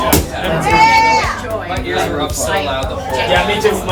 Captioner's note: group chattering